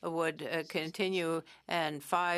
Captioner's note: speaking French